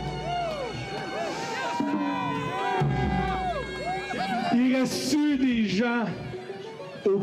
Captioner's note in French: cris des manifestants